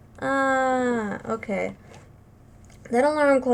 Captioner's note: groan